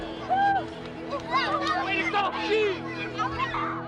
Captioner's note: children shouting